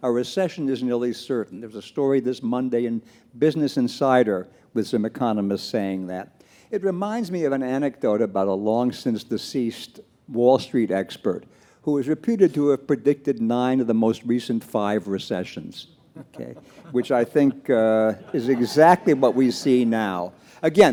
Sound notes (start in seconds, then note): 16.2 panelists laugh